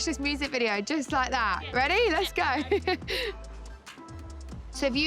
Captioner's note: chuckling